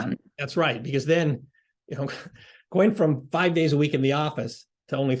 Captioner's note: laugh